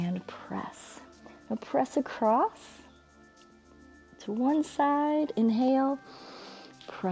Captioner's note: exhales; inhales